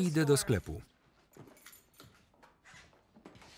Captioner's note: keys jingling